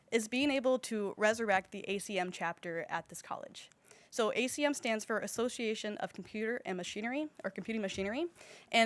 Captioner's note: none